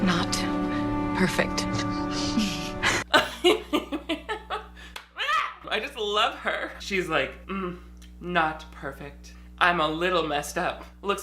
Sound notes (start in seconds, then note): 2.1 laughing